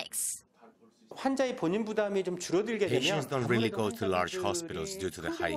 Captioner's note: Korean